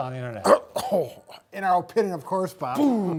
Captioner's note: coughs